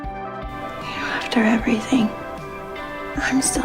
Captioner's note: voiceover